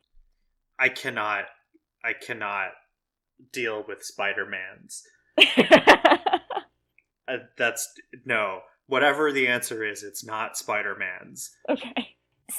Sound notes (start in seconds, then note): 5.4 laughs